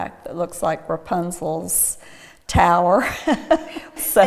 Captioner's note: laughs